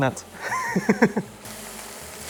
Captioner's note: laughs